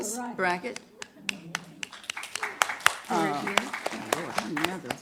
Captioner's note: applause